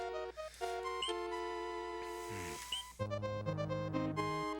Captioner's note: breathing